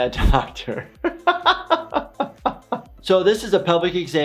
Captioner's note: laughs